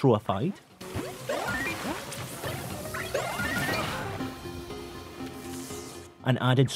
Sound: beeps and boops ensue

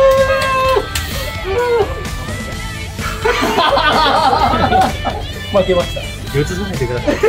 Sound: laughs

